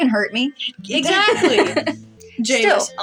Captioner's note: laugh